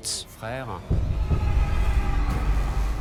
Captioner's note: screams